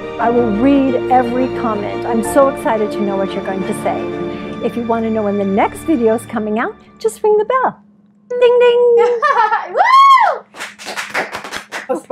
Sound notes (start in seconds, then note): 9.0 laughing; 10.4 clapping